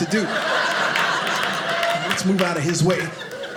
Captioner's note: audience laughing